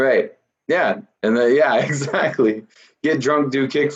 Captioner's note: laughs